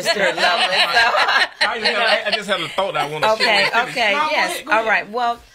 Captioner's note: laughs